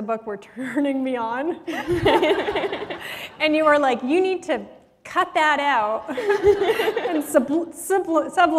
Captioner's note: laughter